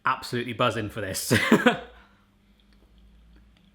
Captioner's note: laughs